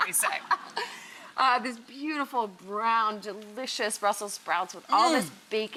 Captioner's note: laughs